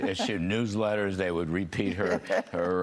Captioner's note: laughter